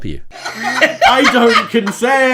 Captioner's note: laughing